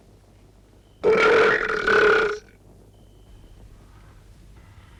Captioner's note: Torente belches